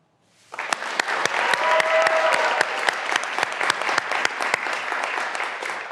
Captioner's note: graduands cheering and applauding